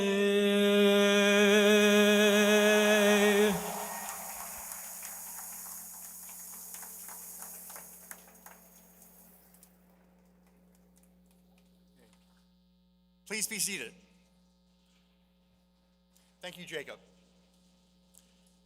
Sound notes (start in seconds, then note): 5.4 applause